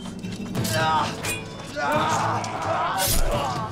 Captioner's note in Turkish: Bağırıyorlar